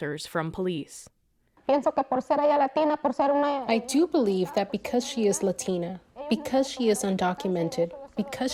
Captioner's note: through translator